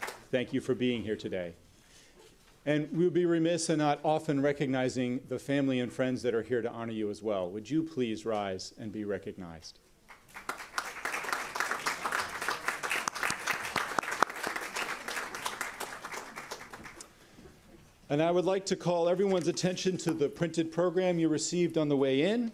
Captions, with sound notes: thank you for being here today and we'll be remiss and not often recognizing the family and friends that are here to honor you as well would you please rise and be recognized [Applause] and I would like to call everyone's attention to the printed program you received on the way in